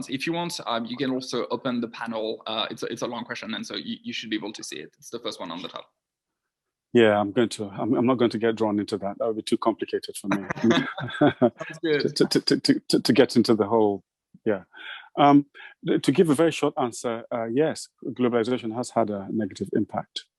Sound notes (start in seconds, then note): 10.2 all laughing